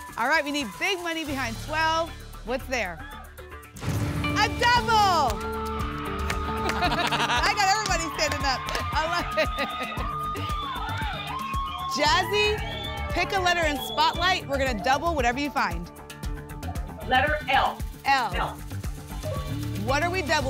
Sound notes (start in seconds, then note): 3.8 booms; 5.9 applause and cheering; 9.8 applause and cheering cont